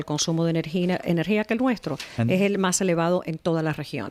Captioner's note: Hablando ingl\s